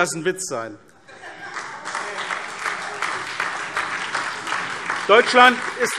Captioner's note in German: Beifall SPD und DIE LINKE